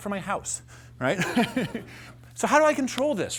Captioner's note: laughter